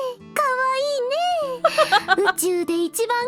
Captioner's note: chuckles